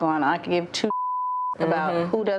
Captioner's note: beep